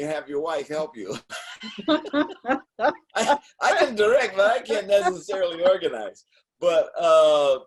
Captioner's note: laughing